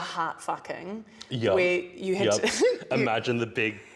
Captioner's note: laughs